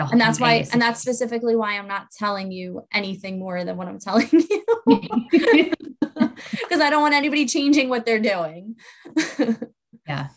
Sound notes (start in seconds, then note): 4.3 laugh